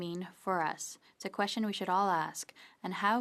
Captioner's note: speaking French